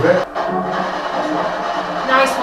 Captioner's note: white noise